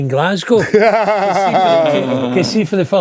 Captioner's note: laughing